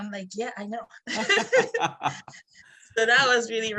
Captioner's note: laughs